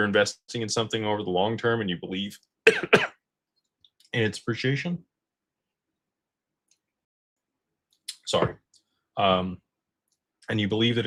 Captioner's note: cough